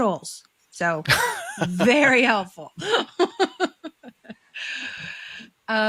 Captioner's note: all laughing